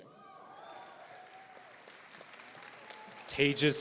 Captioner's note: audience applauding